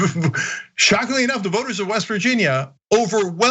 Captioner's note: laugh